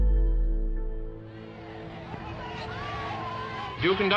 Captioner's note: shouting